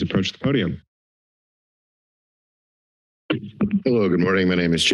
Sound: silence

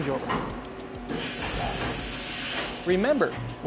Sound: hissing air

